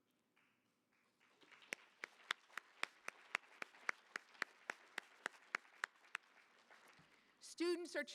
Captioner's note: applause